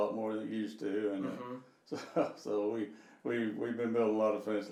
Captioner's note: chuckling